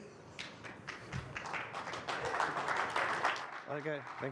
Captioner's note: audience applauds